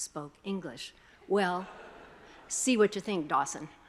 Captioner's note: attendees chuckling